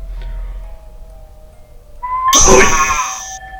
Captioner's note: whistling; loud piercing sound; scream